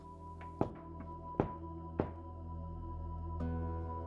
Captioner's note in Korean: 똑똑똑